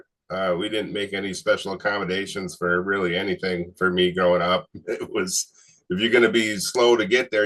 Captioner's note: chuckles